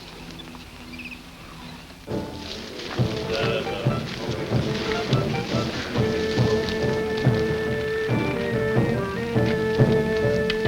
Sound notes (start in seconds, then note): 2.0 dramatic music; 2.3 fire crackles